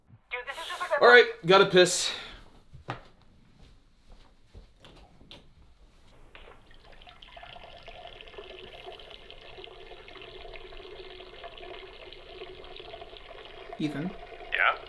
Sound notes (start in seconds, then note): 6.2 Ethan urinating